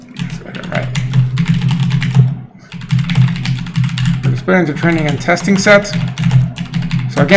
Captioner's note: mutters